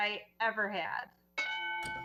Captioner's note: bell dings